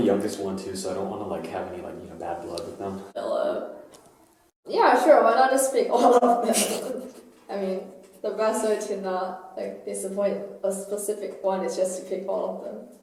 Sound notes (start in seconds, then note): 5.9 laughter